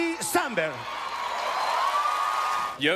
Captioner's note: cheering and applause